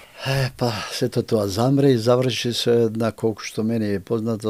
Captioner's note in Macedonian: тешко дишење